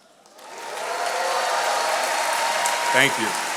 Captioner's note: attendees applauding